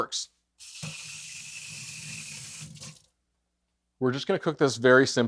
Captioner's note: water sloshing